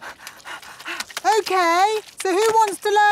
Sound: panting

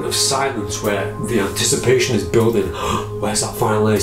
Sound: gasps

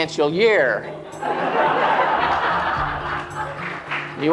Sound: laughter

